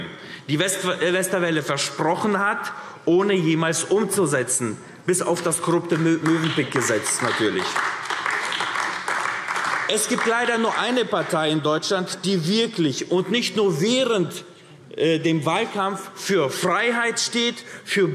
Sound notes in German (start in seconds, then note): 7.6 Beifall AfD